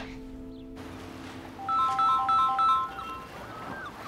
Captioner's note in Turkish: Telefon çalıyor